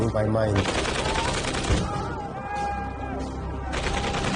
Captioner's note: gunfire